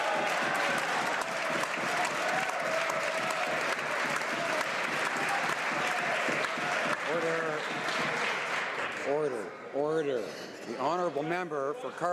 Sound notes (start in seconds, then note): 3.5 some Applause